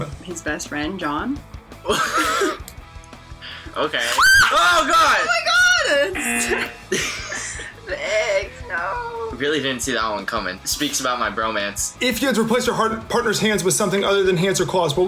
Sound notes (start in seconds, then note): 1.8 laughs; 4.0 screams; 5.7 laughs; 6.9 buzzer